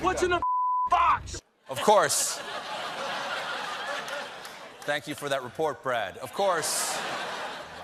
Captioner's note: laughter